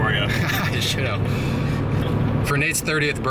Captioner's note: laughs